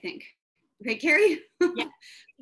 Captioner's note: laughs